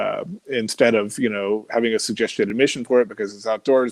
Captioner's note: voice muffled